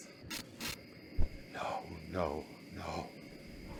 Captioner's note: glitch